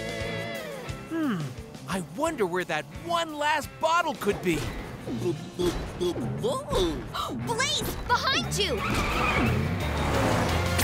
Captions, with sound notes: Hmm, I wonder where that one last bottle could be. [gasping] Blaze, behind you!